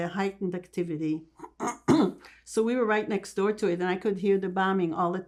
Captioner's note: clears throat